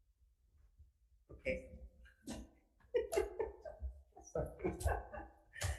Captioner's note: laughing